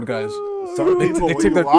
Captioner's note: screaming